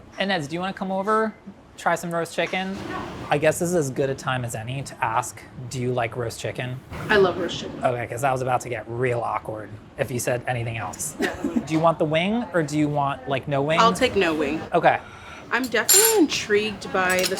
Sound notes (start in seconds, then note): 11.2 laughing